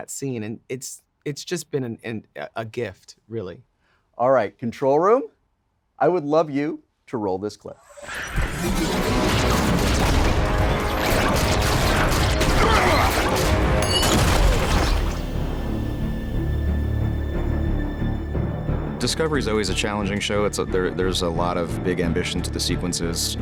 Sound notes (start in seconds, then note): 8.0 lasers firing; 12.6 grunting; 13.7 bomb exploding